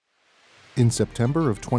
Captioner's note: sound: water rushing